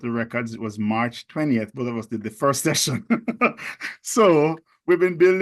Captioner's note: laughs